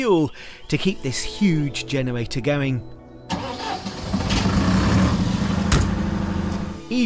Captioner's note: generator starting up